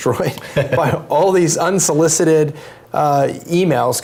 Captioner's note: laugh